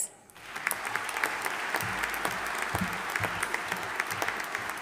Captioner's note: audience applauding